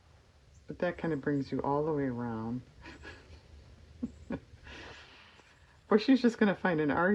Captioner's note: laughs